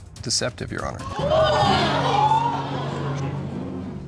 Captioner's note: audience gasps